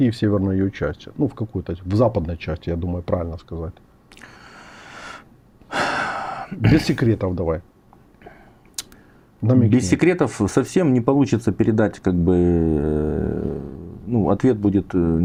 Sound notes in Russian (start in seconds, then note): 5.7 тяжело вздыхает; 5.7 вздыхает